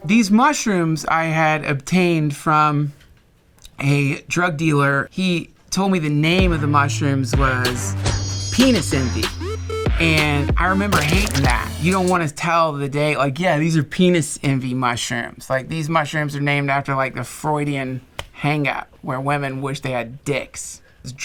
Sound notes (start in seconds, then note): 7.8 twinkling chimes; 10.9 squish